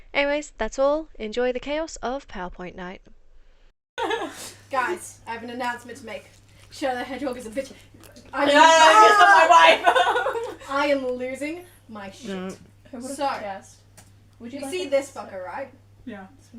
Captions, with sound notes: Anyways! That's all. Enjoy the chaos of Powerpoint night Guys. I have an announcement to make Shadow the hedgehog is a bitch- - YEAH HE PISSED ON MY WIFE - *laughter* I am losing, my shit so- - who would've guessed? - (quietly) would you like this? -see this fucker, right? - yeah